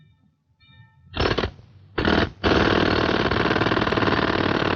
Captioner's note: chisel pounding